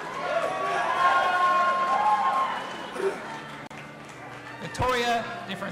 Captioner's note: audience applauding and cheering